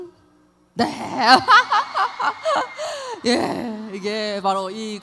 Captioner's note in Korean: 환호